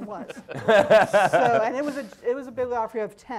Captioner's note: laughing